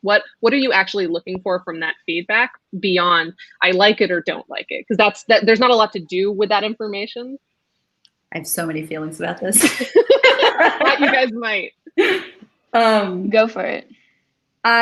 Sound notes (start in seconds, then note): 9.6 group laughs